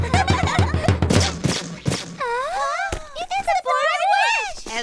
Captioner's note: all giggling; drum banging; broom thudding